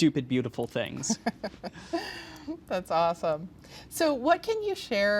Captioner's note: chuckles